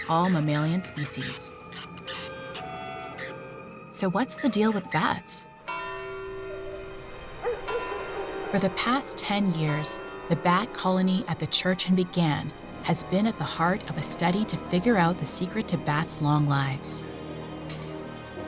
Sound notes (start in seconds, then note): 5.6 bell tolling